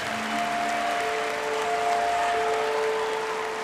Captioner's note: crowd cheering